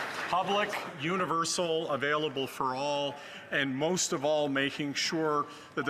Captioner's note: some Applause